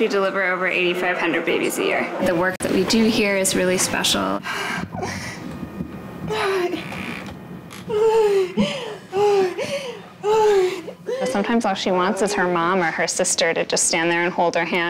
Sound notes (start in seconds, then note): 7.7 breathing, moaning